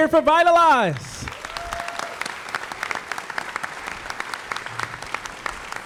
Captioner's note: audience applauding